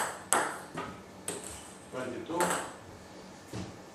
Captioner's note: balls ping pong hitting continues